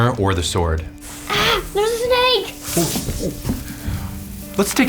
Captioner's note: snake hissing